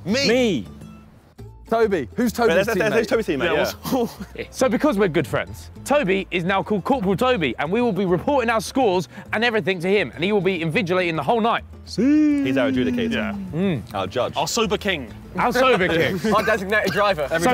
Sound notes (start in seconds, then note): 3.2 chattering